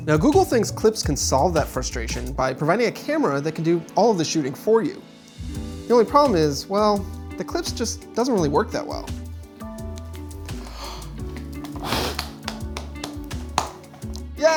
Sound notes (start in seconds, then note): 10.4 exhaling; 10.4 inhaling; 12.0 clapping